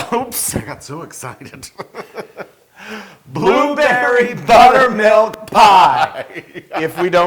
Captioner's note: laugh